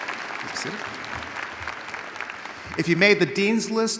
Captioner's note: audience applauding